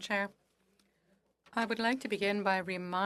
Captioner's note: speaking French